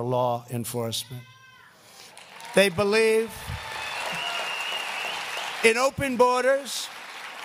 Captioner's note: applause